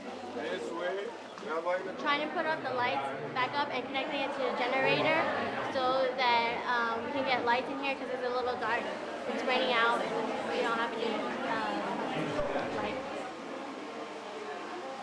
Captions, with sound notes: - [Male Voice] (speaking in Spanish) - We're trying to put the lights back up and connecting it to a generator so that we can get lights in here 'cause it's a little dark and it's raining out. We don't have any lights.